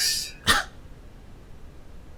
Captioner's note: scoff